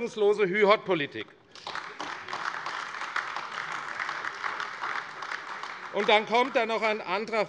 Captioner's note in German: Beifall AfD